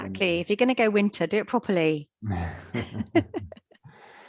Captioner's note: laughs